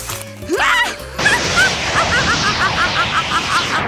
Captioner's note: cackles